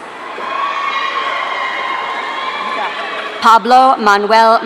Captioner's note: audience cheering